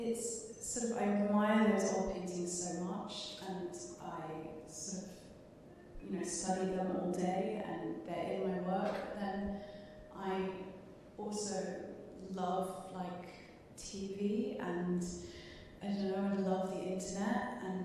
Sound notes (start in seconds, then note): none